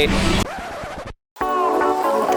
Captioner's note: record scratching; lighthearted music